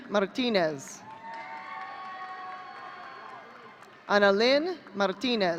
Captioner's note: audience cheering